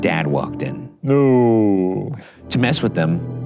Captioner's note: oohs